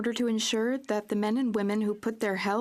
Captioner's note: speaking French